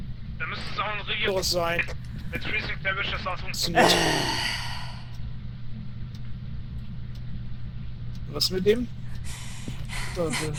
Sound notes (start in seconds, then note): 3.7 annoyed sigh